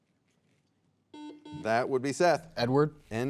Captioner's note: soft beeping